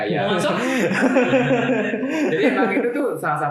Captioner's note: laughter